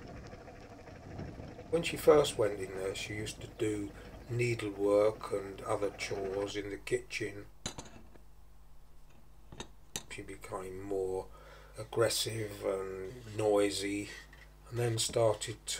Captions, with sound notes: When she first went in there she used to do, needlework and other chores in the kitchen She became more aggressive and noisy [SOUNDS OF WASHING UP]